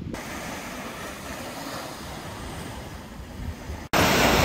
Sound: waves rushing

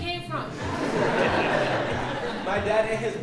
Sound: audience laughing

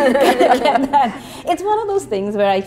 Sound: laughter

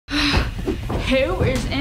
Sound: sigh

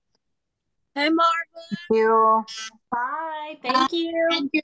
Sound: various voices

